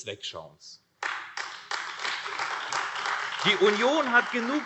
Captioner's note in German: Beifall AfD